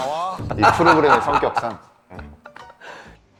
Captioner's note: laughing